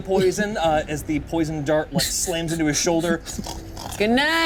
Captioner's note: snores